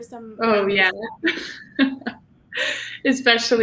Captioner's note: chuckling